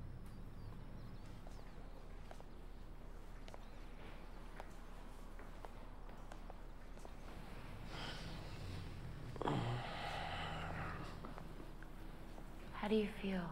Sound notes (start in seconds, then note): 8.6 moans